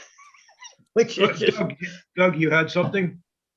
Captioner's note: giggles